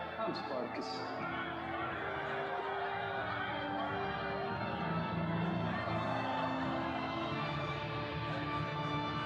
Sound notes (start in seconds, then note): 0.0 crowd shouting; 1.1 dramatic music; 1.8 crowd shouting